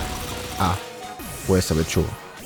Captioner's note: low HP sound